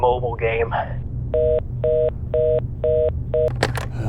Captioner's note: phone call ends